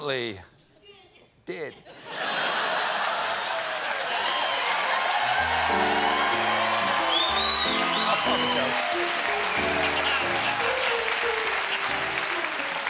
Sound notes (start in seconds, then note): 3.5 cheers and applause; 3.5 laughter; 5.3 piano riff